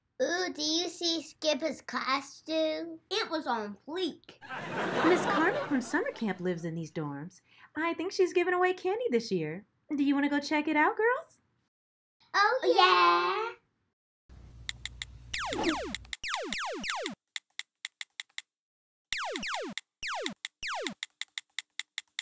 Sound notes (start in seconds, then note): 4.4 audience laughs; 15.4 video game beeps and shoots